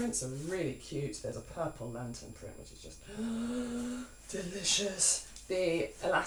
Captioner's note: sigh